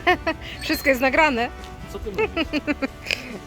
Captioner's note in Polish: śmiech